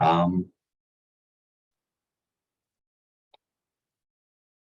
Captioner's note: silence